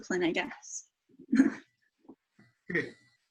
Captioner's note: chuckling